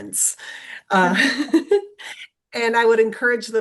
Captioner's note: laughs